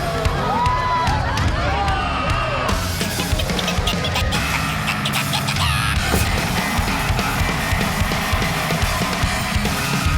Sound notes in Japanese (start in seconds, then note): 3.0 イナリの鳴き声